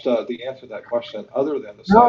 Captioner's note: laughs